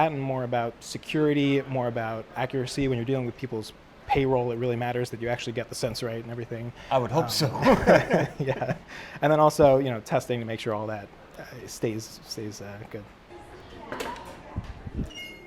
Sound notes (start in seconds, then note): 7.3 laughing